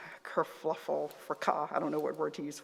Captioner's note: non-english